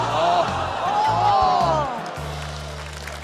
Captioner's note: contestants groan; crowd clamours; applause